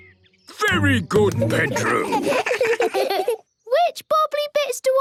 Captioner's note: children giggle